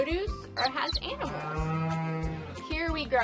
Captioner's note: cows mooing